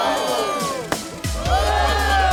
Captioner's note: laughter